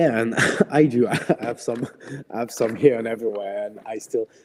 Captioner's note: laughs